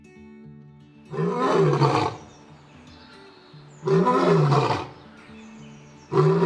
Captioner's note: lion Roars